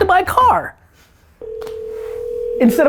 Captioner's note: phone ringing